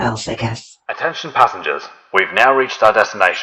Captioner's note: PA system